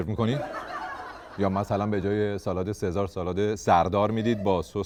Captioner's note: laughter